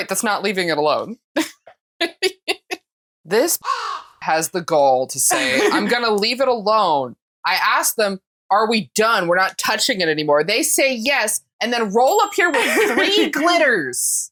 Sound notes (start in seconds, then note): 3.6 caw